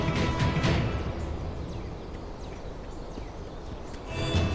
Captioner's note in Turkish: Bağırır; Kuş cıvıltıları